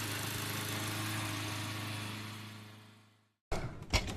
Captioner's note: lawn mower continues whirring